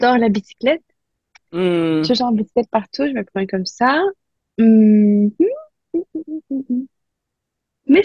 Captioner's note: small noise of reflection